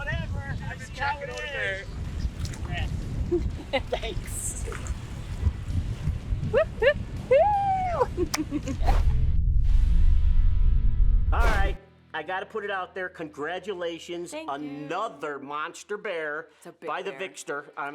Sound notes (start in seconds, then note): 3.2 chuckles; 6.4 laughs; 8.8 logo swoosh